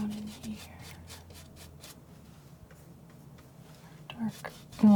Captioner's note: scratching